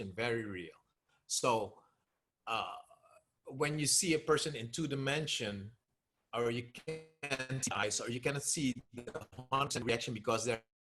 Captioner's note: audio glitching